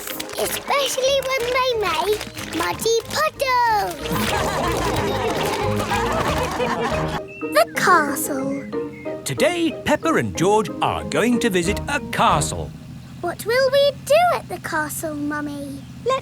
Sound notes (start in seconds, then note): 4.0 all laugh